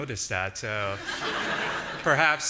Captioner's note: audience laughing